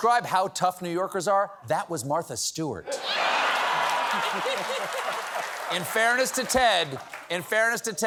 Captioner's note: cheers and applause